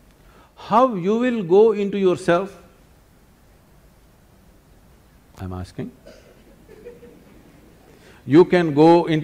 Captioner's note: laughter